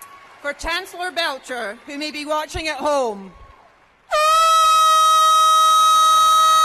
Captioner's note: cheers and applause